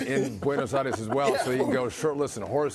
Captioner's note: laughter